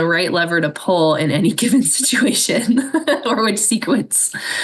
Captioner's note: laughs